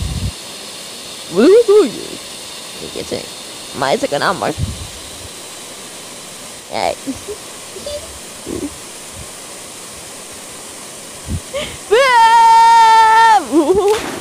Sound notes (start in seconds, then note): 11.9 seiya screams as he jump to the water